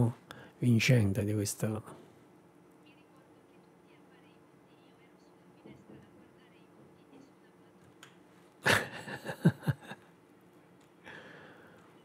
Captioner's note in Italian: Risate